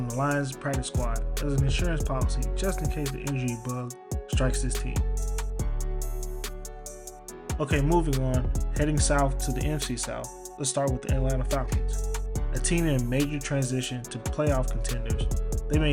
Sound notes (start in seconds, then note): 9.0 voiceover